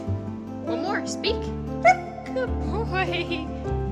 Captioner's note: barking; barking